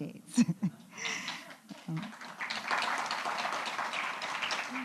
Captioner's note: applause